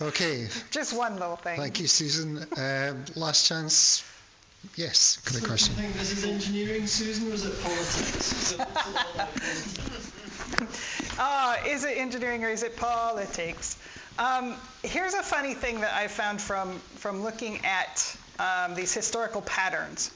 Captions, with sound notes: Okay. Just one little thing. Thank you, Susan. Last chance. Yes, good question. This is engineering, Susan, or is it politics? (laughing) Is it engineering or is it politics? Here's a funny thing that I found from looking at these historical patterns